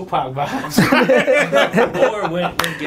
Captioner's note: laughing